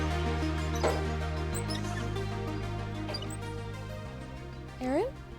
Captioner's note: library cart clanks